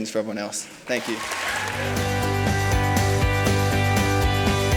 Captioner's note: applause and music